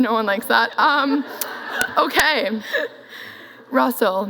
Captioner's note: laughs